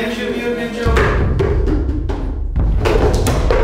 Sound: pail clanks; forceful thud

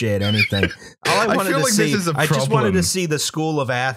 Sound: laughter

